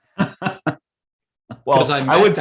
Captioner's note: laughs